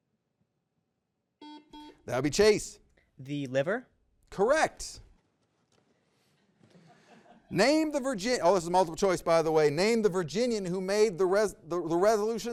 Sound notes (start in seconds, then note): 1.4 buzzer beeps